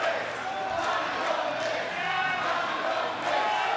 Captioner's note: crowd chanting